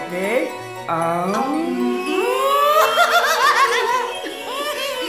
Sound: cackles

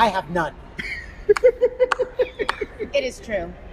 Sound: laughter

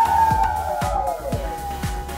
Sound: coyote howl

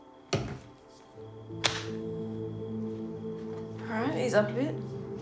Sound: hand slaps

